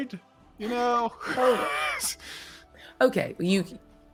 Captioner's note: people laughing